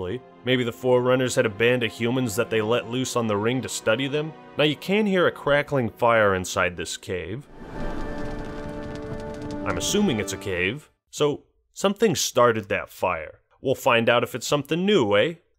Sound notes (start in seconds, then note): 7.4 crackling fire